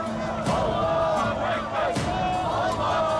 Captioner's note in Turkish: Hep bir ağızdan